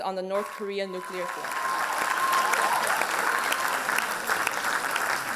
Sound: applause and cheers

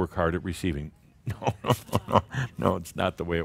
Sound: Adamus chuckles

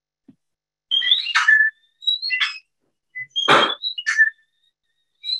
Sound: bird whistling

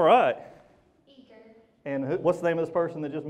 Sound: voiceover

